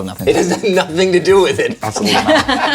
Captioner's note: laughs